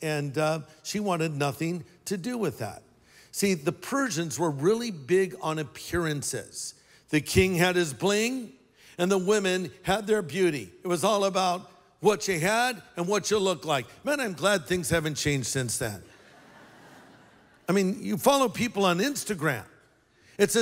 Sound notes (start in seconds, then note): 16.1 laughter